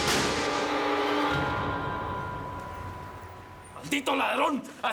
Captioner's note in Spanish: Disparos